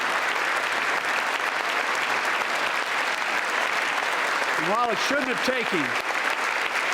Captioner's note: applause